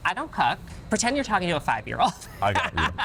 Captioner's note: laughs